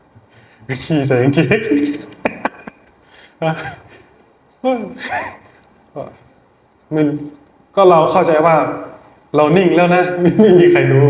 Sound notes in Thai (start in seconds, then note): 1.5 เสียงหัวเราะ